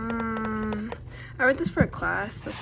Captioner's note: fun finger taps